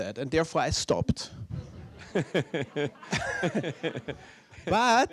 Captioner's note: laughter